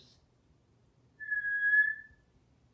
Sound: whistling

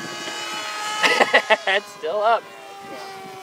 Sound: chuckles

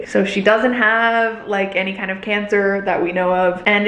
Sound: none

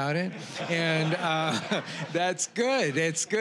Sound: audience laughing

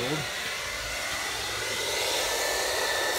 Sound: whirring

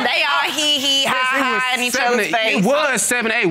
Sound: none

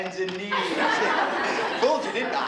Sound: laughter

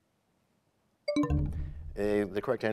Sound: bell chimes, time expires

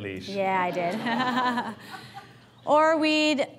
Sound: audience laughs

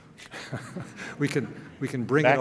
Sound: laughing

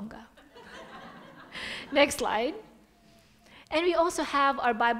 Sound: audience laughing

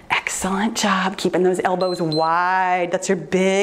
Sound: timer beeps

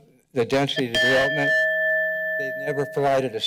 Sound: bell rings

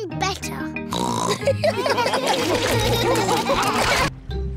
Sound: snorts; laughter

